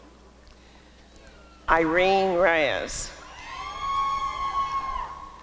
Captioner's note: applause and cheering